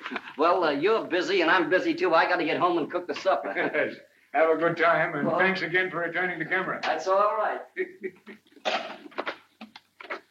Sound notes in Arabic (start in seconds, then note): 3.0 يضحك; 7.6 يضحك